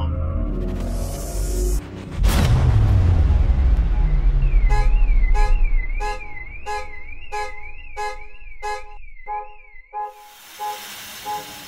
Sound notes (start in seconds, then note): 2.5 car horn blaring